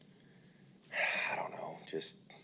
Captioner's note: sighs